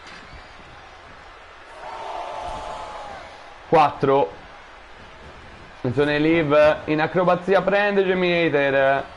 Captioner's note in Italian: Applauso